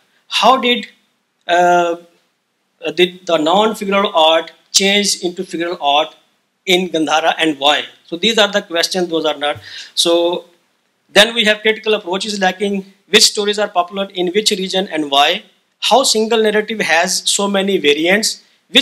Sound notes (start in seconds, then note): none